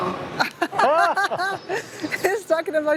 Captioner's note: laughs